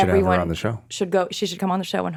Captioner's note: chattering